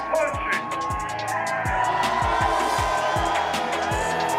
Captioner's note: cheering